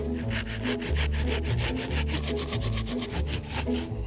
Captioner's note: knife sawing